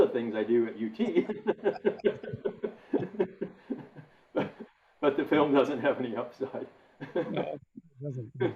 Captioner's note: laughs